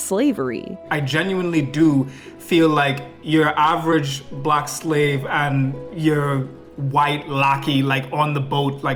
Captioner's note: foreign